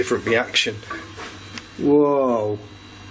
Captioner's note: metallic tapping